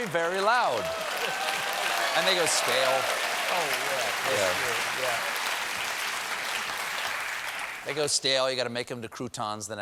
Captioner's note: cheers and applause